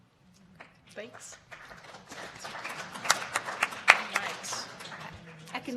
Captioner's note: audience applauds